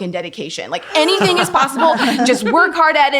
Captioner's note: laughing